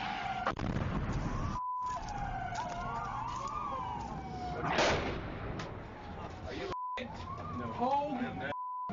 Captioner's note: siren; explosion